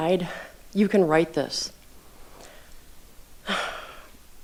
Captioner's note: sighs